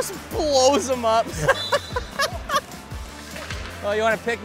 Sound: laughing

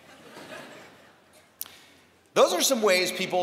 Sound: laughter

